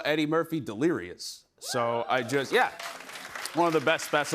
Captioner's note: applause